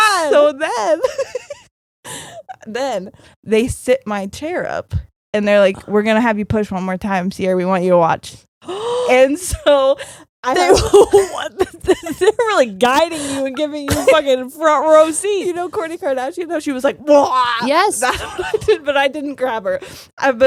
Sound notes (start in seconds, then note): 8.6 gasping; 17.2 screaming